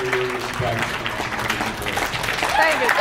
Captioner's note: applauds; cheers, applauds